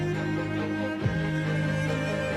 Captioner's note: none